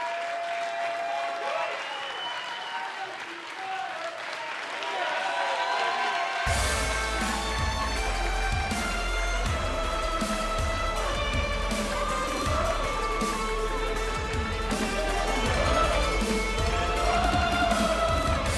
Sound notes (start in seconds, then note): 5.3 cheers and applause